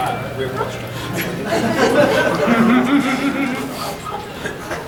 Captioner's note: audience laughing